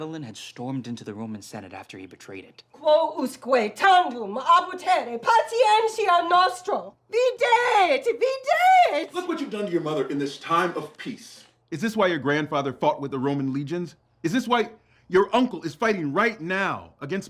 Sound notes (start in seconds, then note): 2.7 angrily speaking Latin